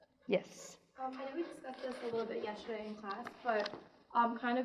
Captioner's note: murmurs